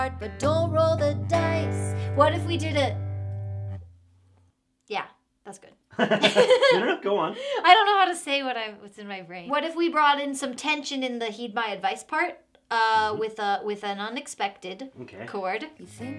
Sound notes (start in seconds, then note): 5.9 both laughing